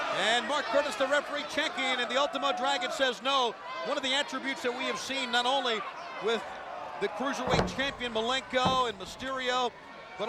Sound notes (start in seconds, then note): none